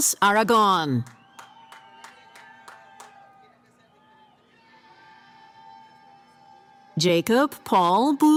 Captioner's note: cheering